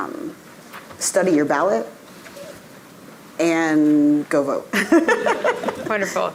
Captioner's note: laughs